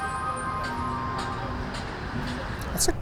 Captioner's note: train coming to a stop; hammering